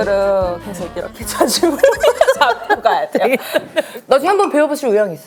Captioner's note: hahaha